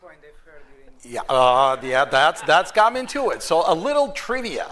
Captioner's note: laughter